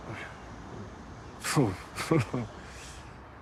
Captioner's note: he chuckles